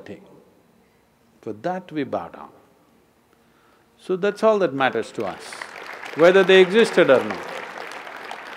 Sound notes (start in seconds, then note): 4.9 applause